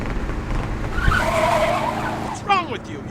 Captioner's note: tires screeching